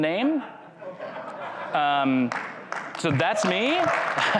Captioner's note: crowd laughs